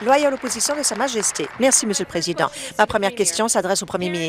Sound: applause

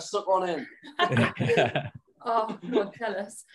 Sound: all laughing

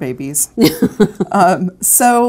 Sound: laughs

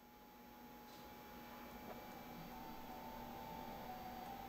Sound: buzzing

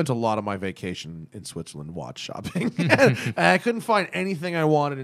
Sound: laughter

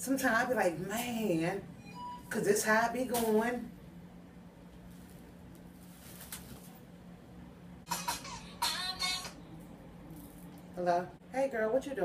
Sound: phone rings

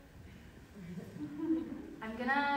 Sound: people laughing

